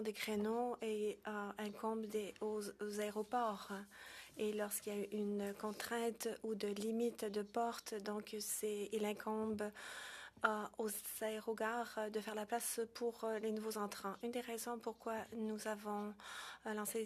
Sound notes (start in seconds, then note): 6.4 speaking French